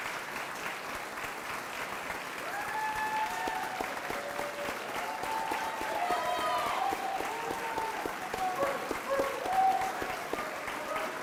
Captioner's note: cheering and applause